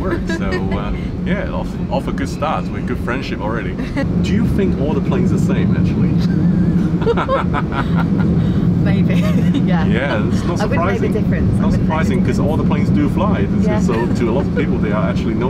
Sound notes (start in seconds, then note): 6.1 both laughing